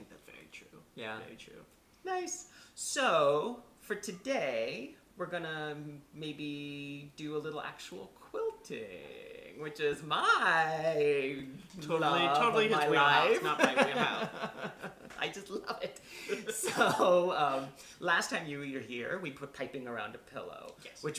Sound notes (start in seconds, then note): 13.4 laughter